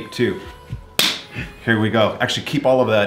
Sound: clapping

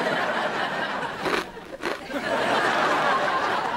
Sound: crunching

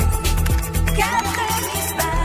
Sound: keyboard clacking

